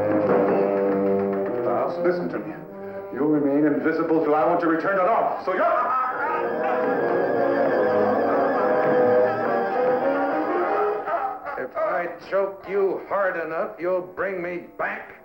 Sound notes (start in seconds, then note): 0.1 shouting; 6.3 choking